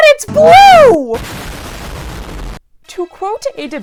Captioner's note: explosion